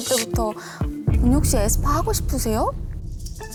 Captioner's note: thud sound effect